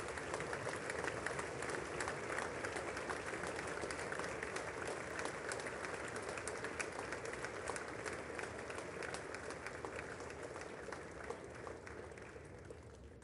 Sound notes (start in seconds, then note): 1.7 applause